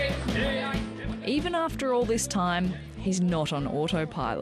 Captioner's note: auction ambience